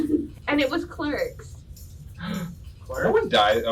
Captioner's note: gasp